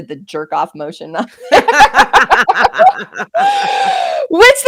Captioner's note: both laughing